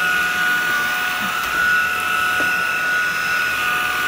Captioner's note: vacuum noises